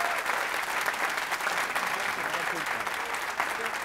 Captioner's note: applause